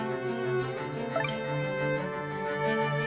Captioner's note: tense music continues; notification blipping